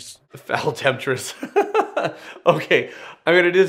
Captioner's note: laughing